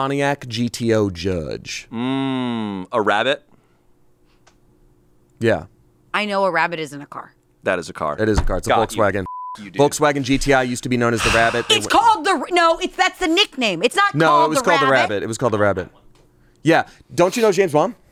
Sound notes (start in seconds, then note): 10.0 beep